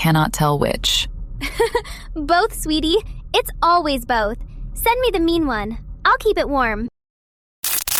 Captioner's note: laughs